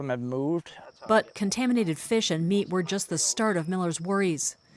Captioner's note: voice-over